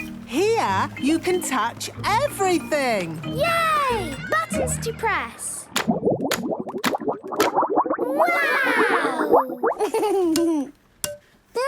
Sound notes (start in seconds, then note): 5.7 bubbling